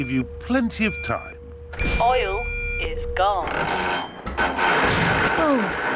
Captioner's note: creaking